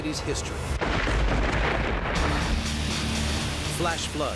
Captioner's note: thunder crashes